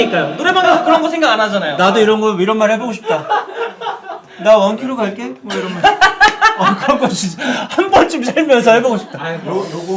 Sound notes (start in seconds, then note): 5.5 laughing